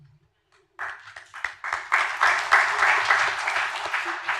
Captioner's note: applause